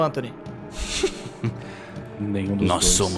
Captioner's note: chuckles